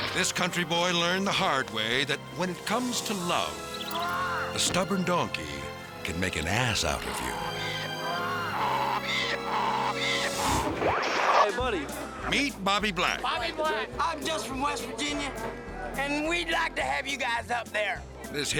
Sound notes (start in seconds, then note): 7.0 donkey braying; 7.6 person yelling; 10.4 slides swooshing